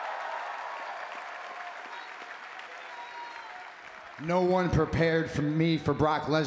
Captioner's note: applause